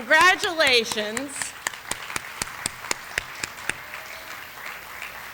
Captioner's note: applause